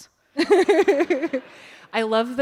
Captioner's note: laughter